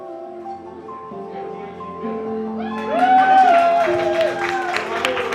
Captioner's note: applause